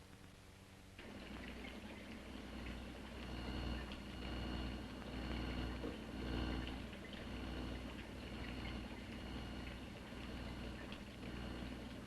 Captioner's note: liquids bubbling & electric humming sound